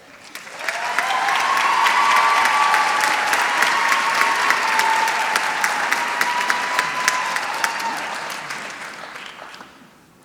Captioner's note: applause; laughs